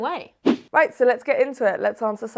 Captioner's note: fast whoosh